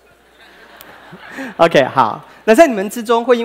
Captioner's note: laughter